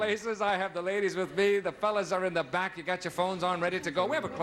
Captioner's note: none